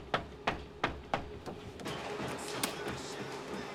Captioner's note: knocks